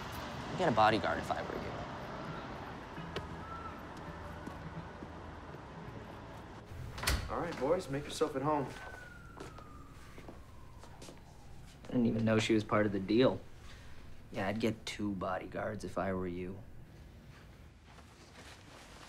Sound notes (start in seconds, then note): 9.1 distant siren wailing